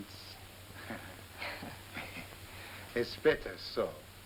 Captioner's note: chuckles